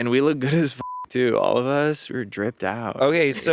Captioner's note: beeping